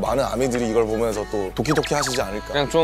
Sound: pit-a-pat

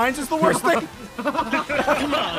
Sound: laughs

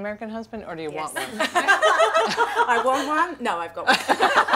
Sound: laugh

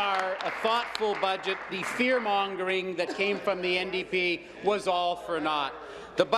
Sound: applause

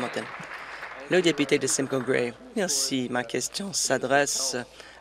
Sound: applause

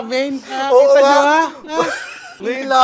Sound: laughs

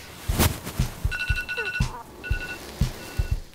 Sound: dog whimpers

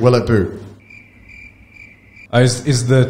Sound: crickets chirping

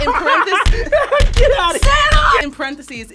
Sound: laughs

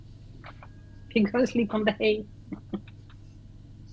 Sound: chuckles

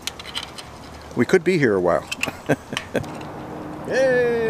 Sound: chuckles

